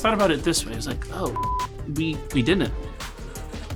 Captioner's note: beep